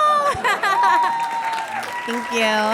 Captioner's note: laughs brightly; audience cheers and applauds